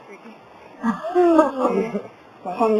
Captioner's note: laughter